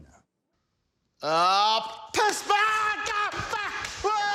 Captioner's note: screams